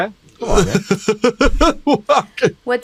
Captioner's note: laughing